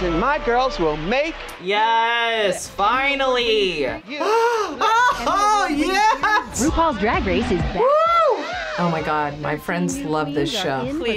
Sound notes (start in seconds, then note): 4.2 laughs; 5.3 voice-over